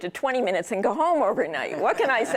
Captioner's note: laughter